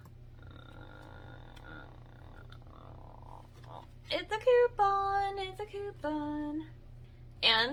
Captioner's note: giggles; sing-songy